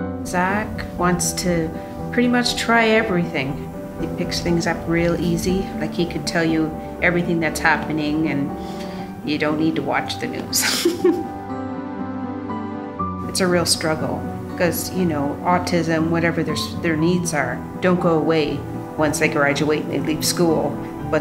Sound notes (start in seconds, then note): 10.6 laughs